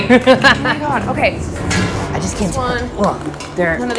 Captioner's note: person laughing